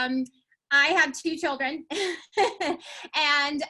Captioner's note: laughs